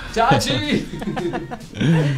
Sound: laughter

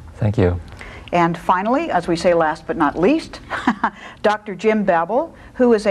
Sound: chuckles

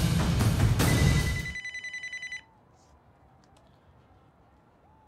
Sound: phone rings

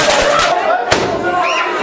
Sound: firework launches; high-Pitched Scream

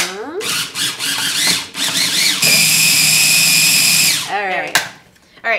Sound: food processor whirs

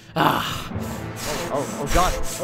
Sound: panting

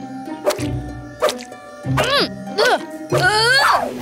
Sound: grunting

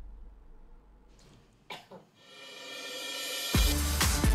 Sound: coughs; upbeat music

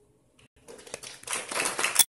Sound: audience applauding

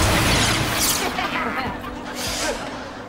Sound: laughing

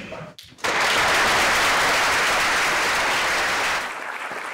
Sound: applause

